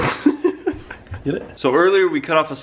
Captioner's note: laughs